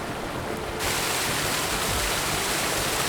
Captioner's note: rushing, splashing water